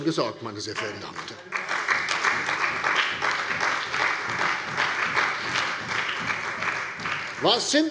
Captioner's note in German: Beifall bei der CDU und dem BÜNDNIS 90/DIE GRÜNEN